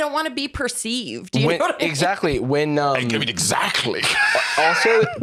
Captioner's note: laughs